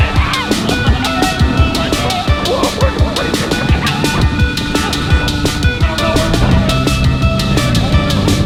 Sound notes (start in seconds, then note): 0.7 yelling; 2.4 music drowns out other sounds